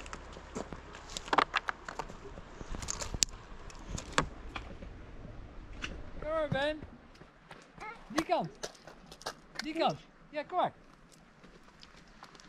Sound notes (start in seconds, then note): 1.6 rocks plunking; 8.6 speaking foreign language